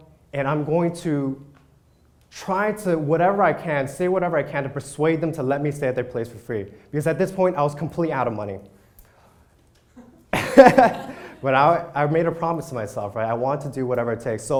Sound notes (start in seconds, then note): 10.0 laughs